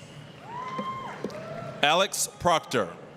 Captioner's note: applause, cheering